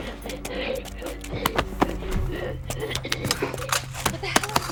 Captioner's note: guard wheezes